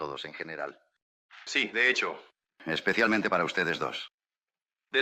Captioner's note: in spanish